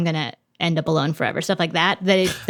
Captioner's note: chuckles